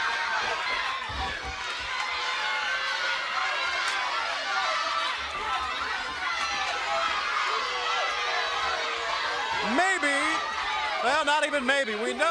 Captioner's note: crowd cheering